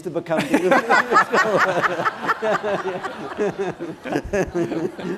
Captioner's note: laughter